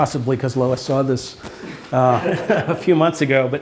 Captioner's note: laughter